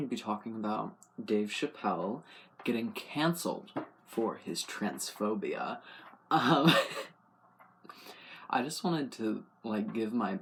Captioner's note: laugh